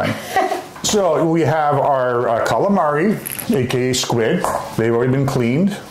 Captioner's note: laughter